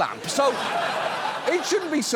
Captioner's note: studio audience laughs